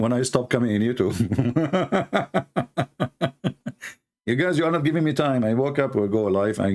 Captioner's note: Ketawa